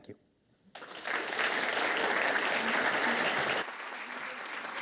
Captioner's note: audience applauds